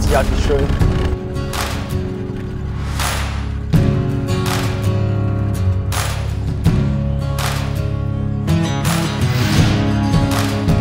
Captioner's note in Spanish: aplausos